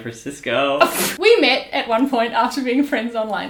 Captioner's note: laughs